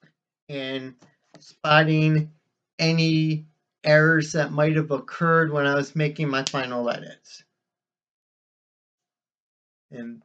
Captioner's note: smack of hands